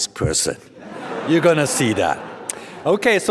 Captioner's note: audience laughs